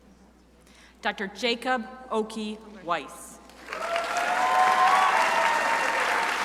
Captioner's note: crowd applauding